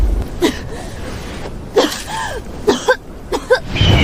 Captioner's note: cough cough cough